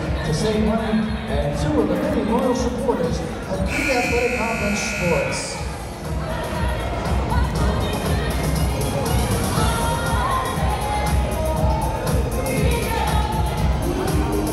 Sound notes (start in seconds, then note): 3.6 buzzer blaring; 6.9 upbeat music